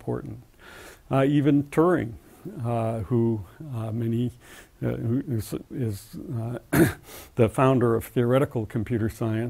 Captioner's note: cough